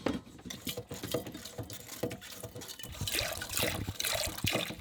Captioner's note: water splashing